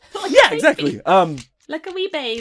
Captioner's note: laughing